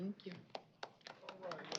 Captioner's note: applause